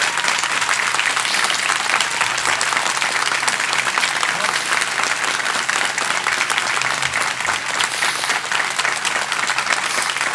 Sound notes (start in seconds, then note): 1.4 sniffing